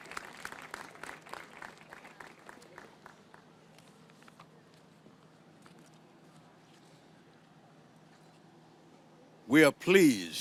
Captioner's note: applause